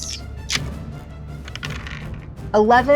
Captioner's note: dice clanks